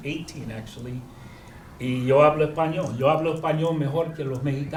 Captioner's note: speaking spanish